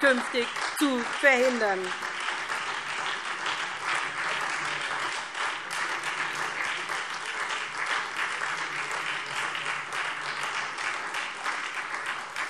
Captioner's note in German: Beifall SPD und Freie Demokraten